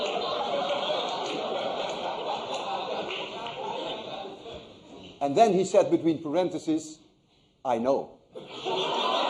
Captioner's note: laughter